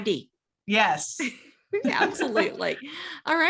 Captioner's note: both laugh